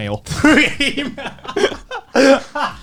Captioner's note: laughs